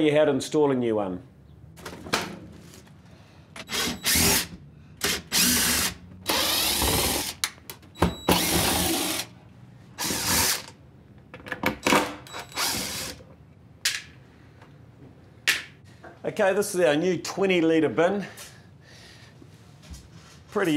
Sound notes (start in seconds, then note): 3.7 drilling sounds